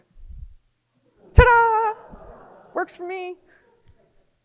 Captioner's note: audience laughing